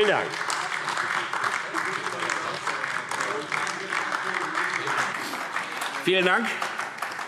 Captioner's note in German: Beifall AfD